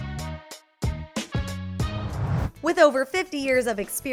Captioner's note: whoosh